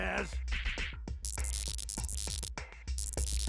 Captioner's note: electronic buzzing